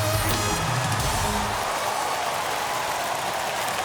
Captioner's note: cheers and applause